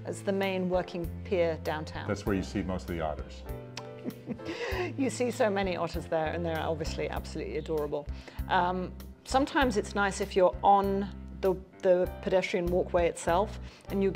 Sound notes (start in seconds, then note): 3.8 chuckles